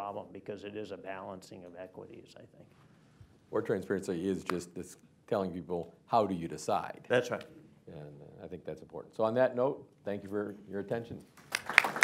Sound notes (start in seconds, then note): 11.4 applause